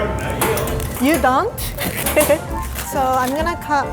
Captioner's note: chuckles